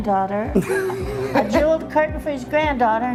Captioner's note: laughs